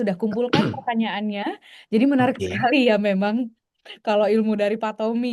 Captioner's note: berdehem